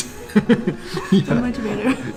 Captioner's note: laughs